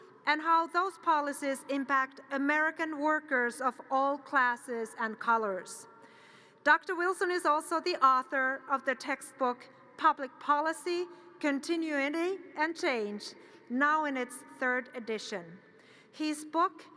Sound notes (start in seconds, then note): none